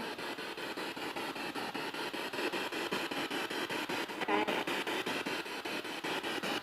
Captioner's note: noise of the spiritbox in the background